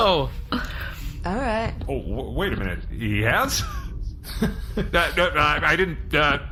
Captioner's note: stuttering